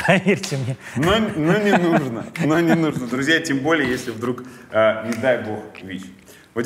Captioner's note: chuckles